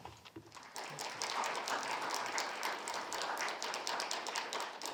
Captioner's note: crowd applauding